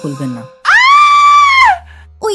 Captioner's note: female scream